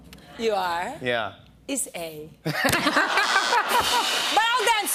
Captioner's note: laughter